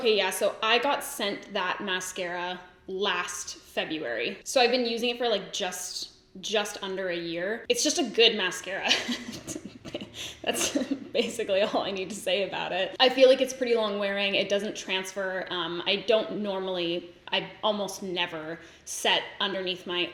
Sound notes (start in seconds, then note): 8.9 laughs